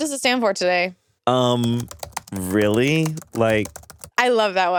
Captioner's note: keyboard clacking